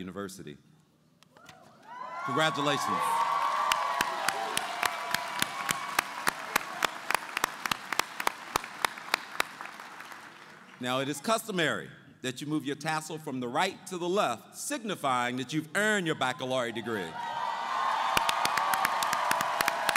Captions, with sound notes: Congratulations! [ Applause ] It is customary that you move your tassel from the right to the left signifying that you have earned your baccalaureate degree. [ Cheering and Applause ]